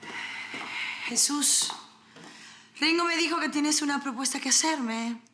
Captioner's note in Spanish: Fernanda exhala